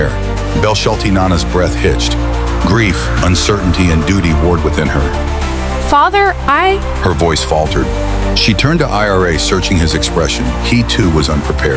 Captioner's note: hesitant